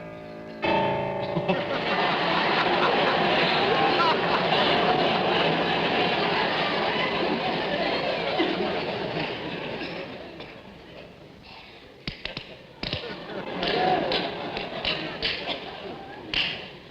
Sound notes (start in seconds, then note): 0.2 piano concerto playing; 2.1 audience laughing